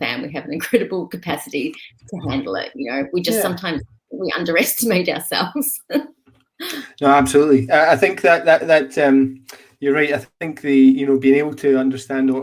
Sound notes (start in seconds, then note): 6.0 laughing